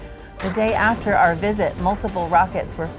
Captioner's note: rocket blasts